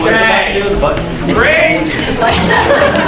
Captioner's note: audience murmuring